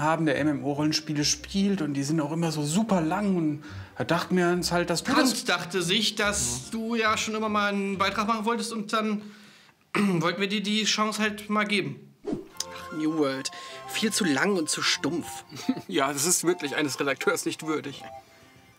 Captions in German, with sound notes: der MMO-Rollenspiele spielt, und die sind auch immer so superlang und da dachten wir uns ... Trant dachte sich, dass du ja schon immer 'n Beitrag machen wolltest, und dann *hust* wollten wir dir die Chance halt mal geben. Ach, "New World". Viel zu lang und zu stumpf. Ja, das ist wirklich eines Redakteurs nicht würdig.